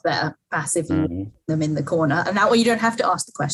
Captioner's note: microphone cuts out